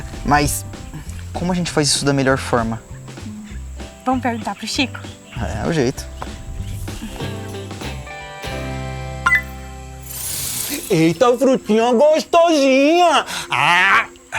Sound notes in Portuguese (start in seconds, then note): 6.2 Pássaros